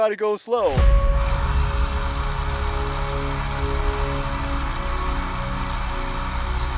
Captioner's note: motor revving; soft music